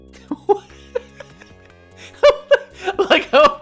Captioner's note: laughing